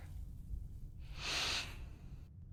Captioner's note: sighs